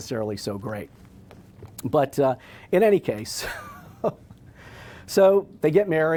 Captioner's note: laughs